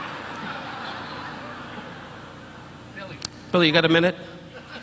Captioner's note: audience laughing